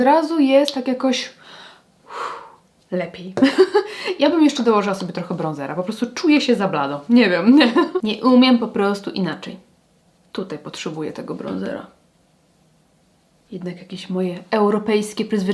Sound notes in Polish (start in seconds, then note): 2.0 wciągnięcie powietrza; 3.4 śmiech